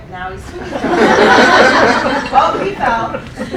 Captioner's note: laughing